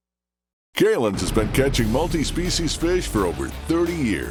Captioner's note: voiceover